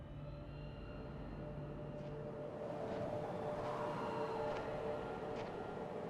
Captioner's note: desolate atmospheric sounds